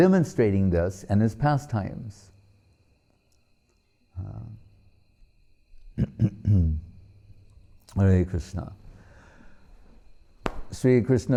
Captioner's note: clapping hands